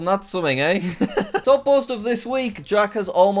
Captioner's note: laughs